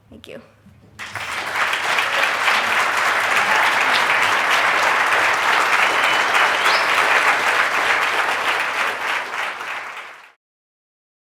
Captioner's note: clapping